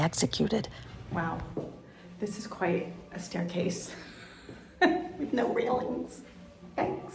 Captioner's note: laughing